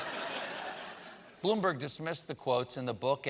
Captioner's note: laughter